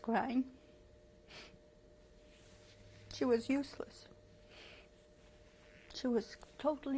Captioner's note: pauses for 3 seconds